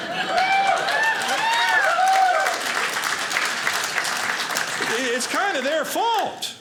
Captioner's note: audience applauding